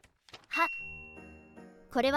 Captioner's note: shuffling